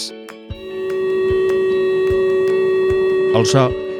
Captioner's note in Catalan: so de sirena